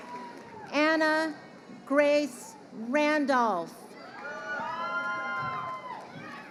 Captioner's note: crowd cheering